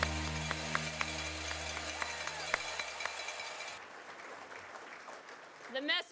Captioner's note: audience applauds